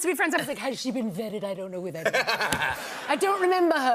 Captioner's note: laughter